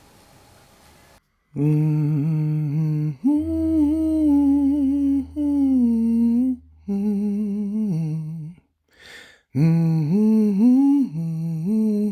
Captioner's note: high humming